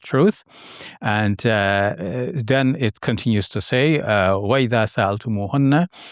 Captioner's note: speaking Arabic